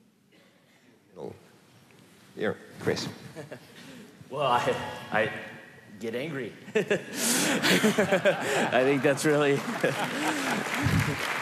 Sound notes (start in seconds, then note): 3.1 laugh; 6.6 laughter; 8.7 applause